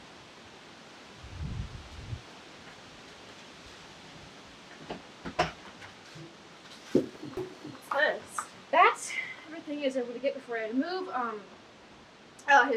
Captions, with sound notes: (door opens) What's this? - That's everything I was able to get before I had to move.